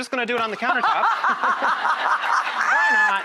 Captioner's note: laughter